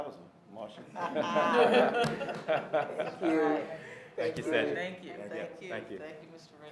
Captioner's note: laughter